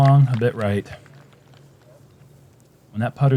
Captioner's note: applause